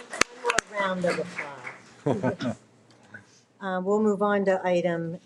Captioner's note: people applauding; speaks faintly; man laughs